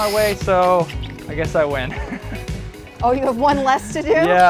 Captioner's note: laughter